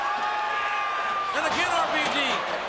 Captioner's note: crowd cheering